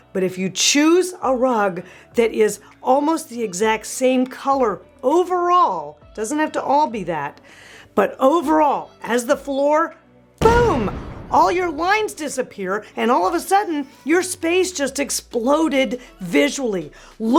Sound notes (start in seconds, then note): 10.4 bomb exploding